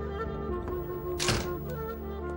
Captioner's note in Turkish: kapi sesi̇